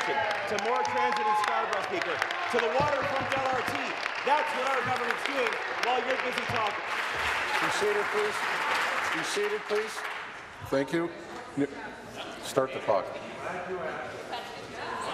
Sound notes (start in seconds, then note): 4.5 applause; 11.3 applause